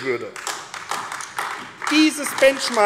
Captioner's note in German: Beifall AfD